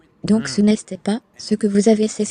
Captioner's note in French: grognement